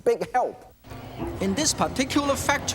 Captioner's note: engine runs